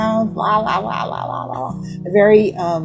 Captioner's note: speaking gibberish